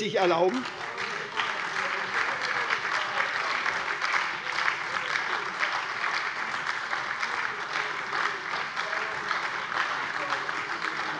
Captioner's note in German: Lebhafter Beifall bei der SPD